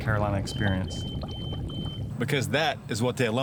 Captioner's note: alarm beep